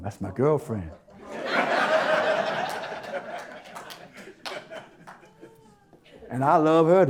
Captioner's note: audience Laughter